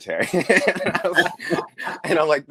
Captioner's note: all laugh